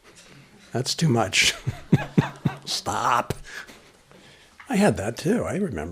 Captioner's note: laughter